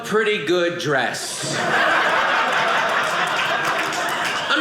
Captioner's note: audience laughing